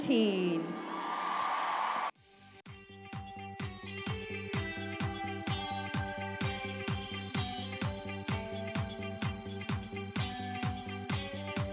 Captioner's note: applause